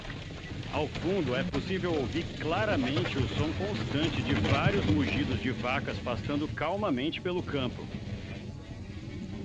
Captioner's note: cows mooing